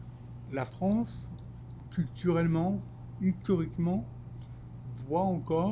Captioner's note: speaking French